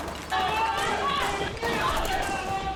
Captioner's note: guns firing